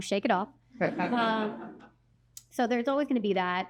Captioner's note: laughter